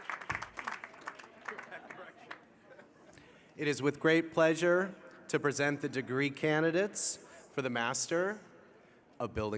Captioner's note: applause